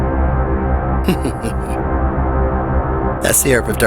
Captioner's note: chuckles